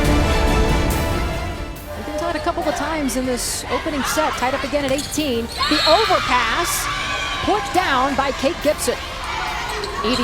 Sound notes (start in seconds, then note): 5.6 cheering